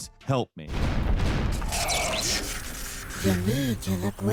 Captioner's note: explosions boom